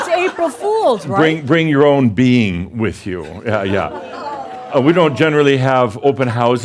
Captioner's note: audience says “Oh!”